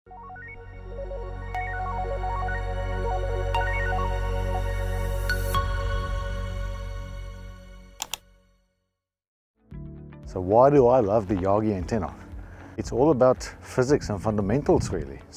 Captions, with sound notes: (upbeat instrumental music) (keyboard clicks) - So, why do I love the Yagi antenna? It's all about physics and fundamentals, really.